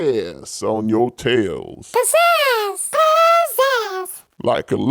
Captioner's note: Maw voices echo Pizazz!